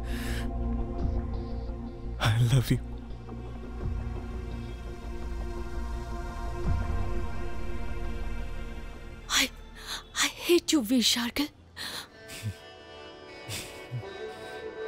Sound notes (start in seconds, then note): 12.3 chuckles